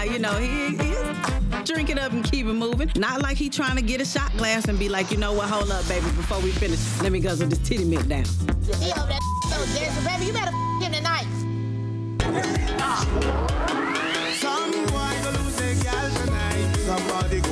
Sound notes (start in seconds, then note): 10.4 beep; 12.1 dance hall music